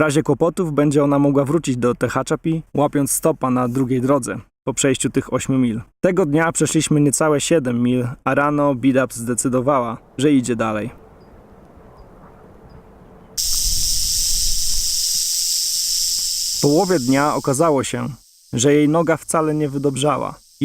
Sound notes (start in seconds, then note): 13.4 rattle snake sound